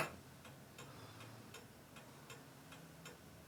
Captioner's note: regular ticking blows